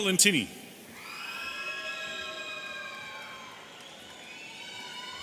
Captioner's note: audience cheering